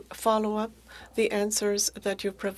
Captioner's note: speaking French